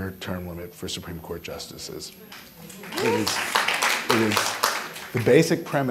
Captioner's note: audience clapping